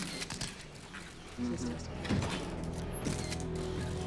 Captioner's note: spectators murmur